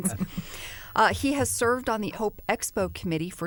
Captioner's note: laughter